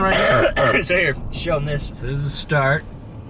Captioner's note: coughing